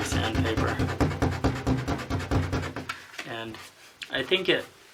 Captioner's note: sanding